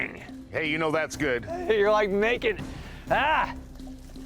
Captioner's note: exclaims in frustration